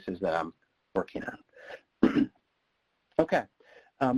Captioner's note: clears throat